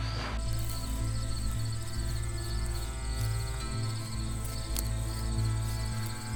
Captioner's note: dramatic music; crickets chirping